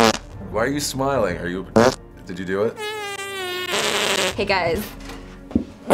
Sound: louder fart; high-pitched fart; low-pitched fart; intermittent farts

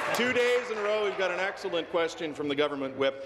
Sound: applause

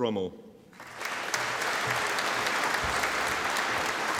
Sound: audience applauding

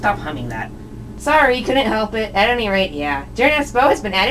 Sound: stops humming

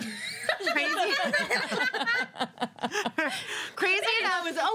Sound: laughs; girls laugh

